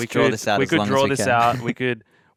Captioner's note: chuckling